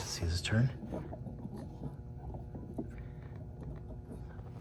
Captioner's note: turning noises